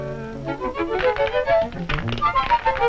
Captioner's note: stone clatters